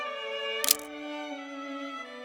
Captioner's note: camera click